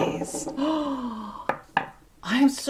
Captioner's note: gasp